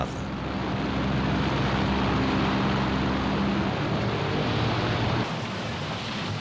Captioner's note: plane engine roars